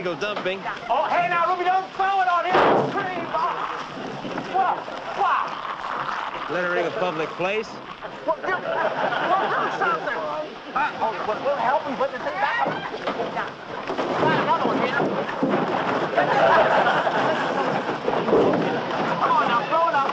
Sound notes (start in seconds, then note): 2.3 shouting; 9.6 shouting; 17.7 laughing